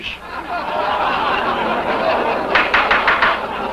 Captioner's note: laughter; gavel knocking